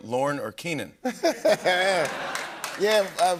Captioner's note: laughter